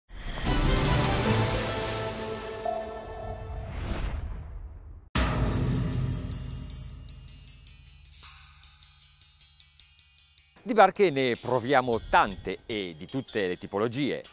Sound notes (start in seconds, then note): 0.2 intense music; 11.1 speaking Italian